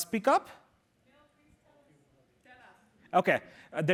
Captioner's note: chatter